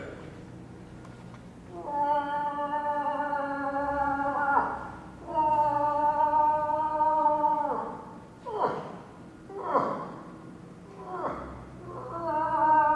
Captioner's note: moose call